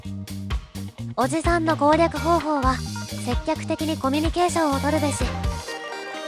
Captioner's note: laughs